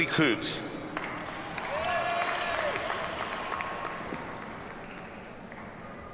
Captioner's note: audience cheers and applauds